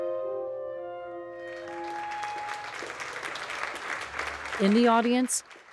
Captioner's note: audience clapping